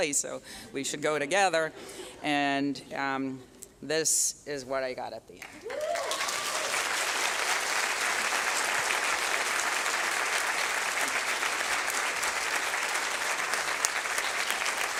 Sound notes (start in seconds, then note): 1.6 laughter; 5.7 applause